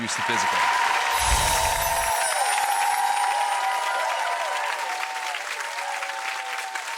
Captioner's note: audience cheers; bells chime